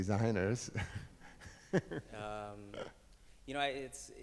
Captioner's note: laughs